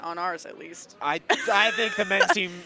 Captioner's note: laughs